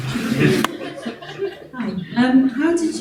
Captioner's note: congregation laughing